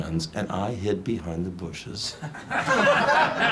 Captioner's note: audience laughs loudly; chuckles